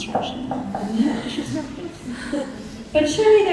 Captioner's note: audience laughing